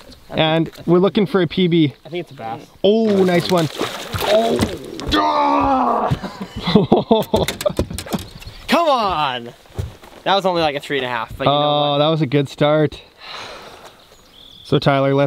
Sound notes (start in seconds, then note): 4.2 groans; 5.9 laughs